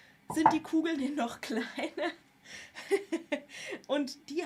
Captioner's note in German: gelächter